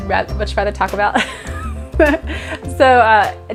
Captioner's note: laughing